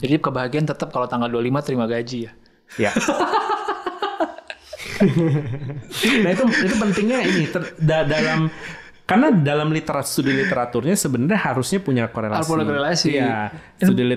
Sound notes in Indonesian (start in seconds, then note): 2.7 tertawa